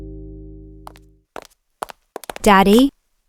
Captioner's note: footsteps